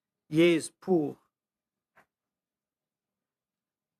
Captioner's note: speaking French